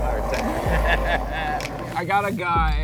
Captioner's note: laughs